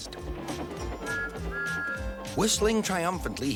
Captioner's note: Thomas whistles